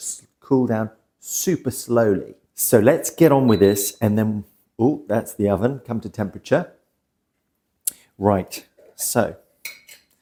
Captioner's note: beep